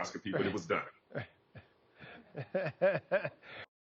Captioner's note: laughs